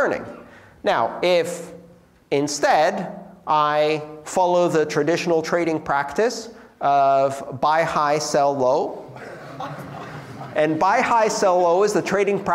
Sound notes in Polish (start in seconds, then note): 9.1 śmiech